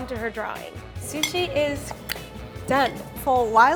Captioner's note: tongue pop